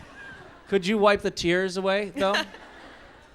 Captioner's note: laughs; laughs